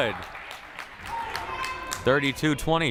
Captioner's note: crowd applauding